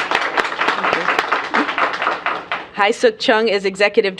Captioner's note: applause